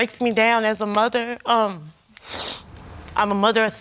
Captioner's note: sniffles